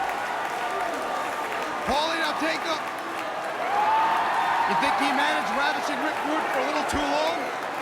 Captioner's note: crowd cheering